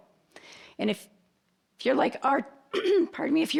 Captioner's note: clearing throat